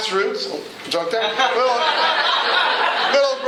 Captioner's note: laughter